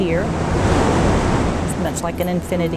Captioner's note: water rushing